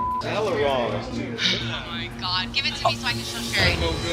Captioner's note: beep